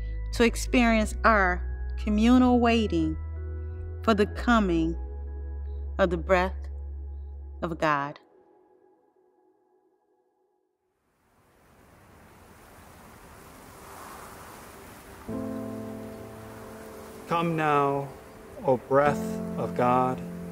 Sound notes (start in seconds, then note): 11.3 wind blowing; 11.5 soft gentle music